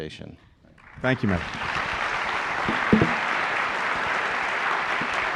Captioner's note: applause